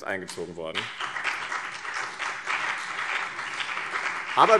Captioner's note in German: Beifall BÜNDNIS 90/DIE GRÜNEN